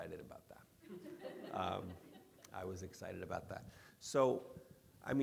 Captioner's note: audience laughing